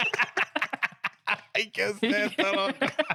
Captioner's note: laughing